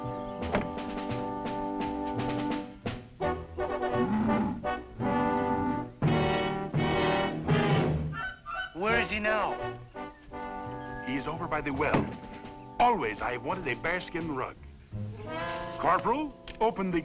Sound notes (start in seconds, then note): 4.0 growling